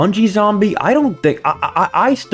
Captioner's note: stutter Moment